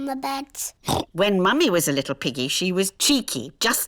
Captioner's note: oinks